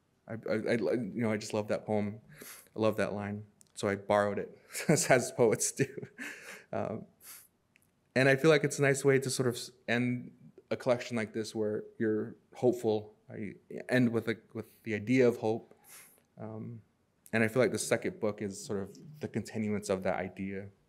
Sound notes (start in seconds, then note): 4.7 chuckles